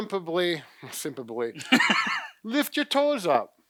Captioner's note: laughter